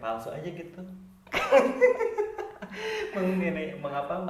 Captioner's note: laughing